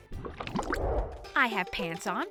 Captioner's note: water burbling; transition whooshes